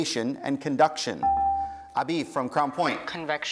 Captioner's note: dinging